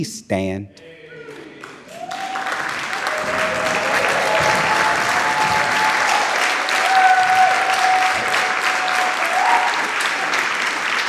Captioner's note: audience cheering and applauding